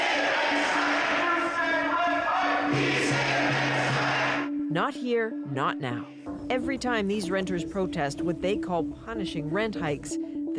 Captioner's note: chanting